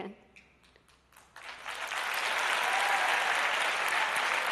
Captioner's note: applause